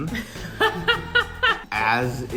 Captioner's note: laughter